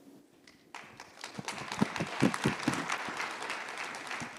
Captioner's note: applause